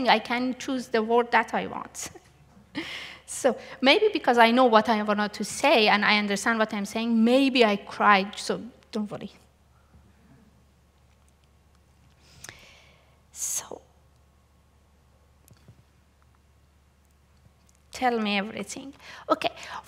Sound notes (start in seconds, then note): 2.0 laughs